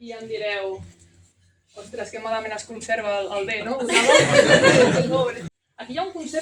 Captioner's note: laughter